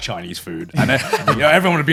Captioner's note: laughing